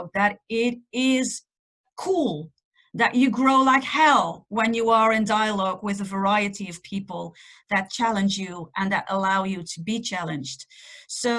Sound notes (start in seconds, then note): none